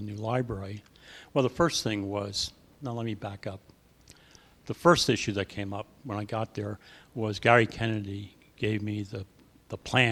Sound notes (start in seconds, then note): none